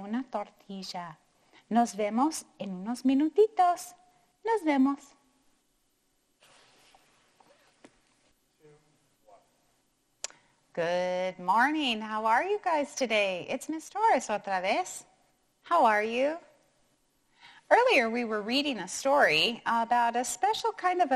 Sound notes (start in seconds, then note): 14.2 speaking in foreign language